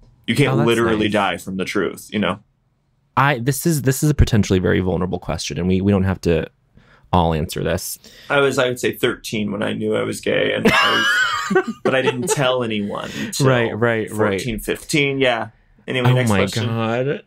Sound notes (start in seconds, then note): 10.6 laughter